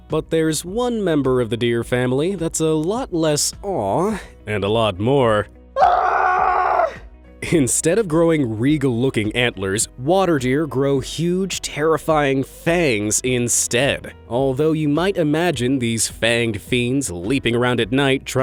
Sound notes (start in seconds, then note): 5.7 man screaming